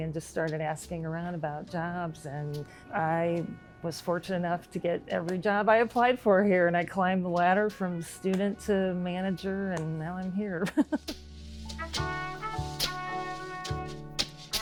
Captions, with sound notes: and just started asking around about jobs. And I was fortunate enough to get every job I applied for here. And I climbed the ladder from student to manager, and now I'm here. (laughs) (relaxing music)